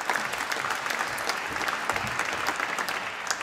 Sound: applause

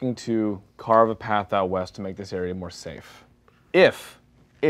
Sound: none

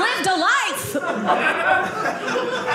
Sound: audience laughing

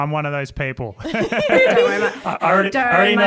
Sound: all laugh

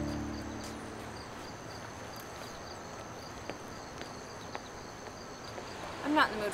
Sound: footsteps

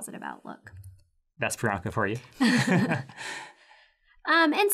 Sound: laugh

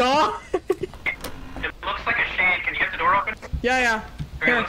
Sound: over Radio

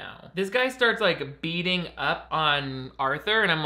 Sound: none

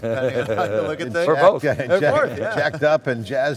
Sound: laughs

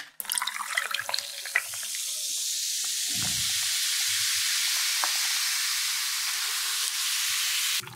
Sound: cool soda SOUND !!

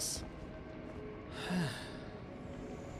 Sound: a calming sigh before the storm

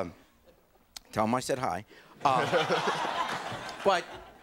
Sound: audience laughing

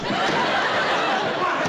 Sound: pounding

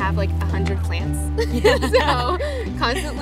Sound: both chuckle

